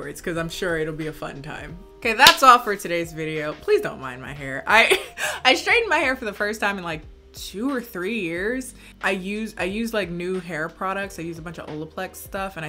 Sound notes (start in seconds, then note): 5.0 laughs